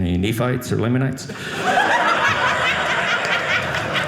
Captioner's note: audience laughing